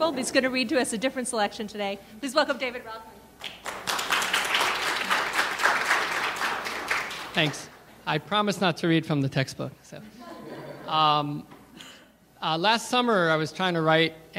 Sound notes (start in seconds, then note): 3.4 audience applauding; 10.2 audience laughing